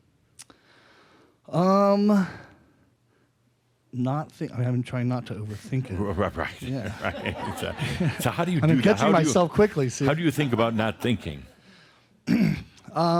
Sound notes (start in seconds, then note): 6.4 chuckles; 9.7 some chuckles